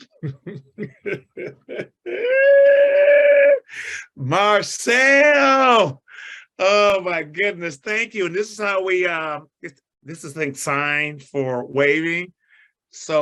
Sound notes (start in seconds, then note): 0.0 chuckles